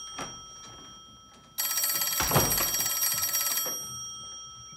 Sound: telephone ringing

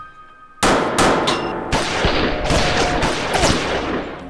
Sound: guns firing

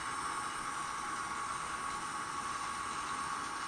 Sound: motor noise

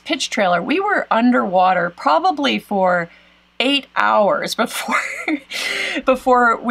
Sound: laughs

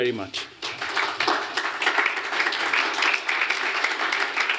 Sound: applause

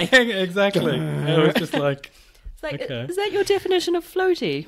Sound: laughs

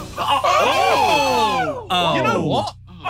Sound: sidemen exclaiming

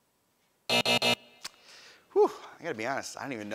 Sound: buzz

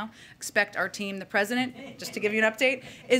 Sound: laughter

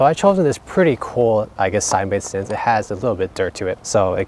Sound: distortion

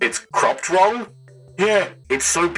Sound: robot voice

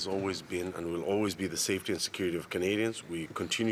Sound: speaking French

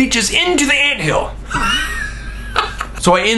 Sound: laughs

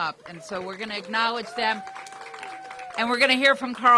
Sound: applause

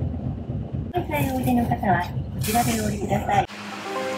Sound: bus annoucement in japanese

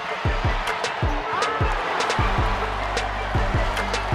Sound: crowd cheering

